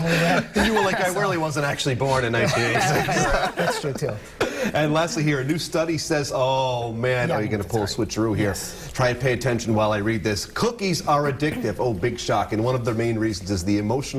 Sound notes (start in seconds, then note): 2.3 laughter